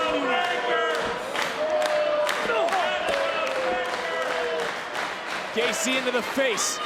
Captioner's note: applause